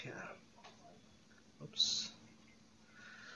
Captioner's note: pause